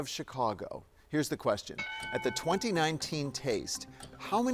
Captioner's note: bell dings